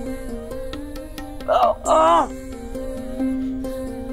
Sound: moans

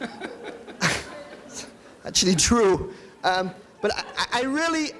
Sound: chuckles

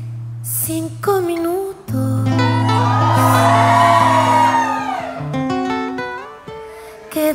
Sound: applause

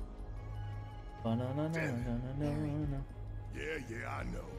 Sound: humming

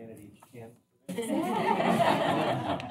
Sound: laughter

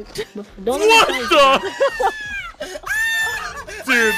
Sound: screams

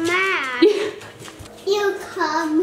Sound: laughing

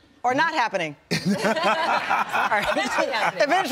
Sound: all laugh

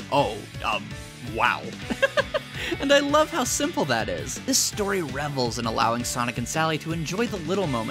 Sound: laughs

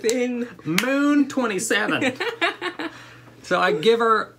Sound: laughter

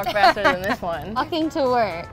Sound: laughing

